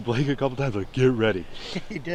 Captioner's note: laughs